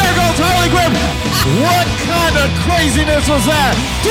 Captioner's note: host laughs